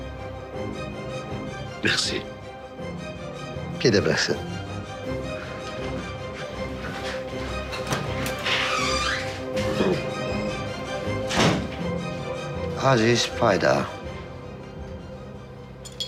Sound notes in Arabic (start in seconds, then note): 6.4 موسيقى توتر; 11.3 يغلق الباب